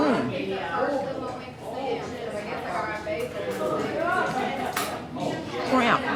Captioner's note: customers chattering